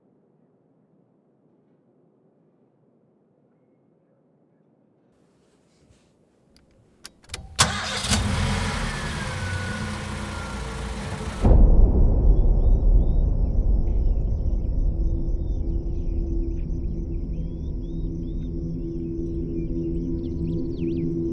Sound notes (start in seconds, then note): 7.0 car engine starting; 11.7 soft ominous music; 15.2 birds chirping; 16.1 soft orchestral music